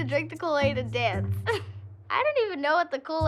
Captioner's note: laughs